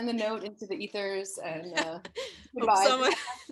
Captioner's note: laughs